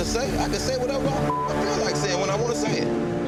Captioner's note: beep